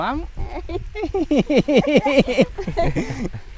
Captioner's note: laughs